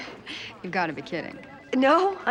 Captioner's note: laughs